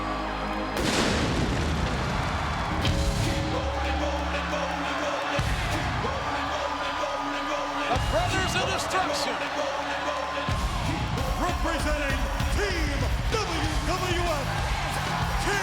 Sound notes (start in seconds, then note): 0.8 pyro exploding